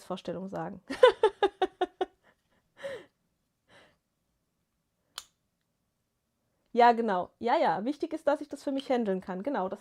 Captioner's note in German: gelächter